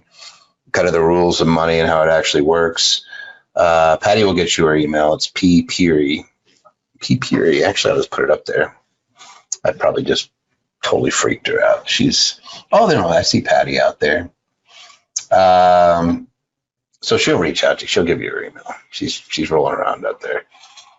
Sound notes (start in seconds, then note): 6.9 murmurs